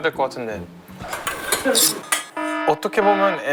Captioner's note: clang clang